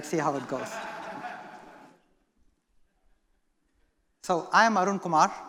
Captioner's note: laughter